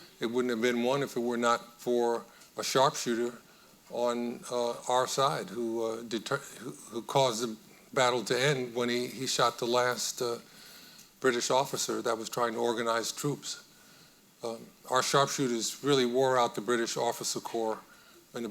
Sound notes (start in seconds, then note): none